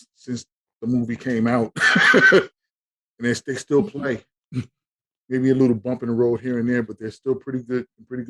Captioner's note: laughing